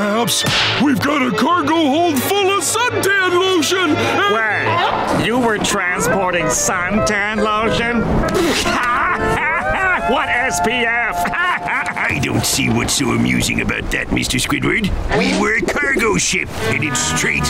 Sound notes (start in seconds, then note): 8.0 laughing